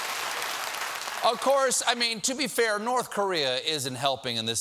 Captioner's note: applause